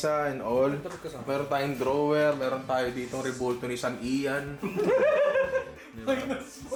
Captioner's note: laughter